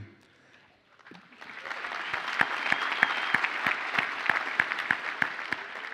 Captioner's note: audience applauds